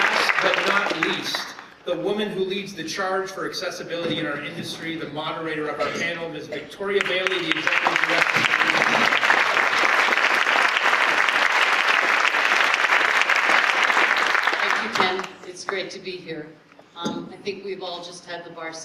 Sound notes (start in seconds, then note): 0.0 applause; 13.8 applause